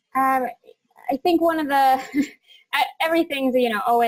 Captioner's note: laughs